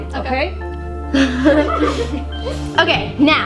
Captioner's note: girls giggling